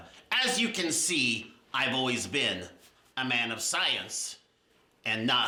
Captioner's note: none